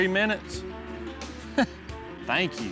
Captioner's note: laughs